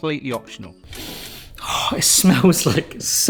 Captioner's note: sniffs